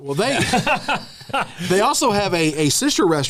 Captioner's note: laughter